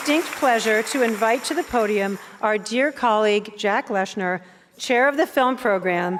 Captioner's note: applause and cheers